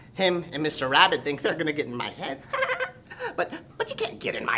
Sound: chuckles

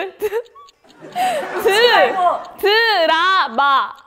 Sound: laugh

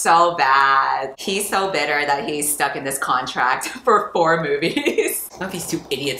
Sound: laughs

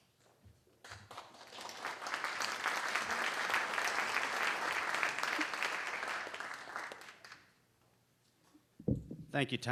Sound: applause

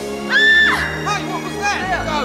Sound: ominous music; screaming

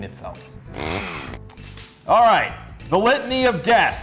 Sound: chainsaw noise

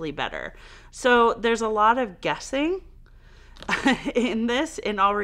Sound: laughs

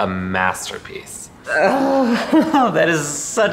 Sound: relieved sigh

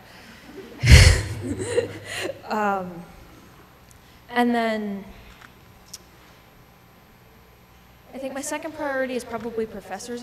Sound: laughs

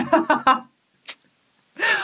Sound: laughing

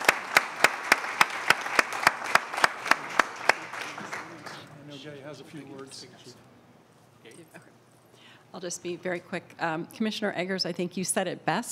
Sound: applause

